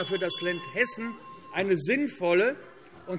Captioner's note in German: Anhaltende Unruhe - Glockenzeichen